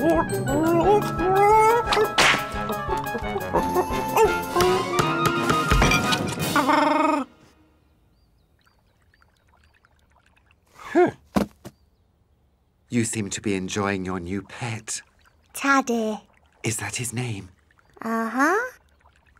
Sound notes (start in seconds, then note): 13.5 chef splutters